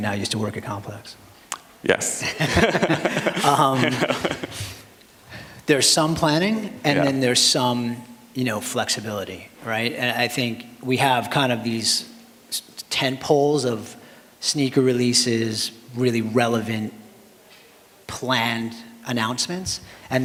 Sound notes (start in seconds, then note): 2.2 laughter